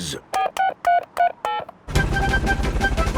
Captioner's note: dialing